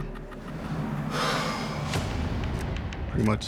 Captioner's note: sighs deeply